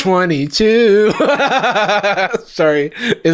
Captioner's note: laughs